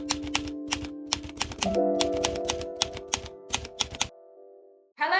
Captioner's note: gentle music playing; typewriter keys punching